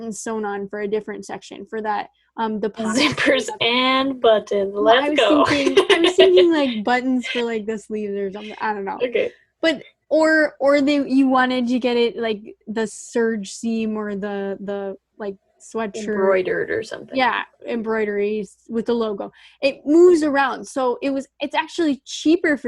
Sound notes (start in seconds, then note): 5.3 laughs sarcastically